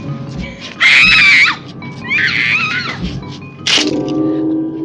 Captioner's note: screaming